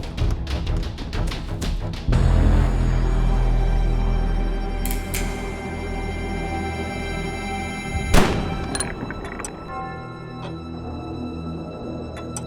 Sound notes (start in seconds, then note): 4.7 cocks gun; 8.1 gunshot; 9.6 clock chimes